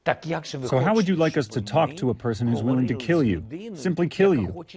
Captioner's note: through translator